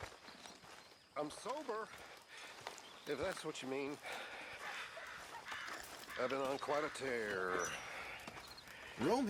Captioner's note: sighs